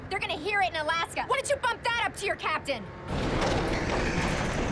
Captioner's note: rattling